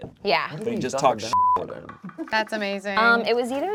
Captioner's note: beep